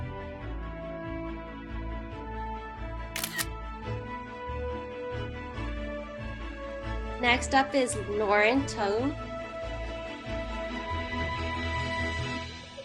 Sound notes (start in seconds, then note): 3.1 camera shutter sound